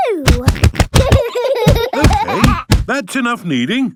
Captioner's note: banging